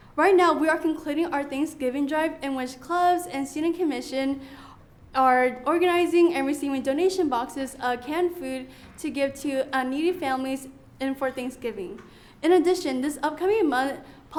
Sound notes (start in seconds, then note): none